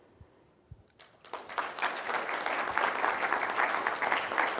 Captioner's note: applause